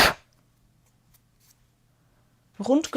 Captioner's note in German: schnauben